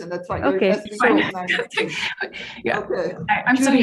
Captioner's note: laughs